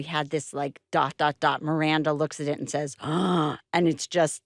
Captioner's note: gasps